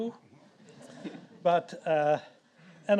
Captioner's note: audience laughs